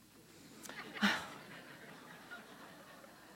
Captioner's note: chuckle